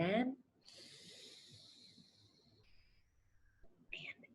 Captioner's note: inhales